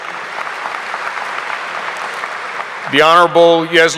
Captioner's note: audience applauding